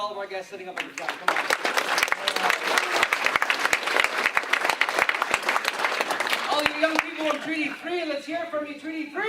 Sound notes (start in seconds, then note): 0.7 applause